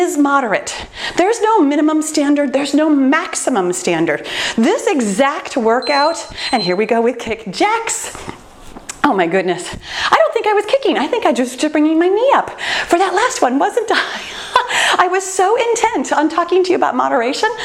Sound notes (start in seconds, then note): 5.7 timer beeping; 14.5 laughs